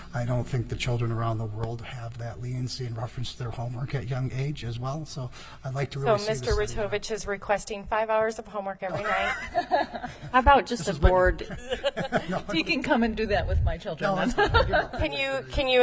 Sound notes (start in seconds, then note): 8.9 laughter